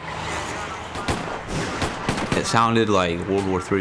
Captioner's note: gunshots